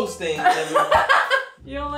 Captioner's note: laughing